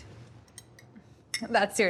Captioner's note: spoon clinking